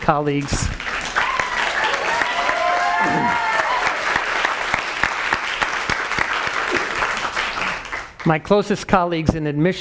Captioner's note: applause